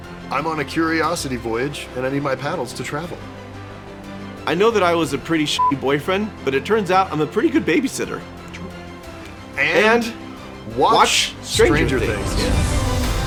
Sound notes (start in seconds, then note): 5.6 beepy